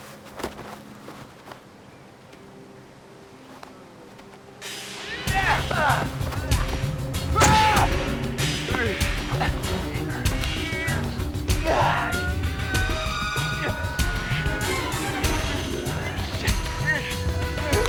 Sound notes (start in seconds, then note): 5.3 shouting; 10.4 grunting